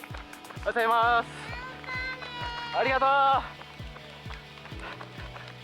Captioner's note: cheering